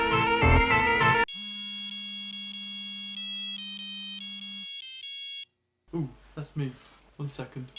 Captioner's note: phone rings